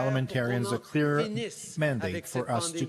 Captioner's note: speaking French